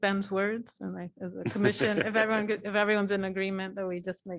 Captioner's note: laughter